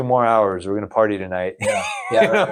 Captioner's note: laughs